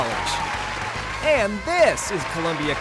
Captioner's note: audience applauds